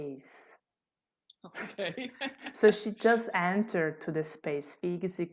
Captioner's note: laughter